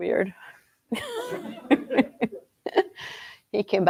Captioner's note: laughter